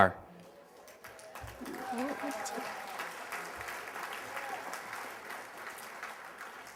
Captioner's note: applause